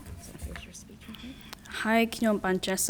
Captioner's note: faintly speaking; speaking in a foreign language